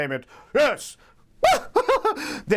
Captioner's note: laughs